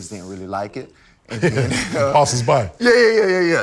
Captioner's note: laughter